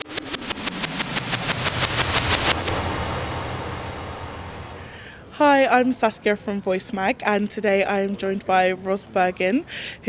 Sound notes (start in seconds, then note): 0.0 robotic whooshing